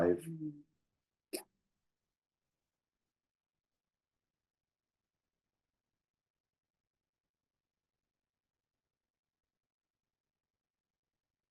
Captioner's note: silence